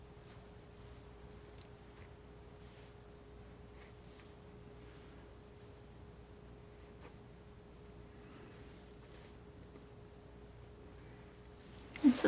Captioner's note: silence